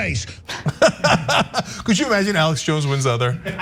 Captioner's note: laugh